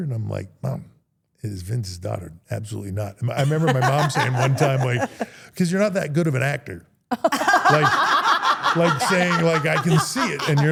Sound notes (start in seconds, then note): 3.4 Steph laughs; 7.2 everyone laughs